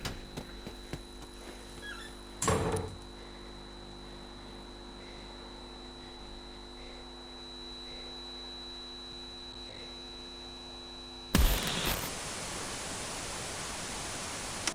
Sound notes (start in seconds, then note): 0.0 footsteps thumping quickly; 2.4 door thuds shut; 3.2 high-pitched tone ringing; 11.4 static whooshing